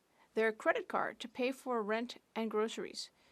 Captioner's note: speaking French